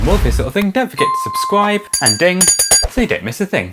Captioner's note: bell ring